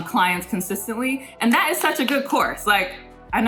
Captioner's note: claps